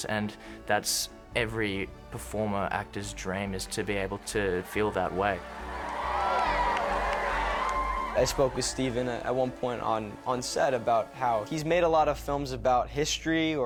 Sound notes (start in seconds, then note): 4.5 cheering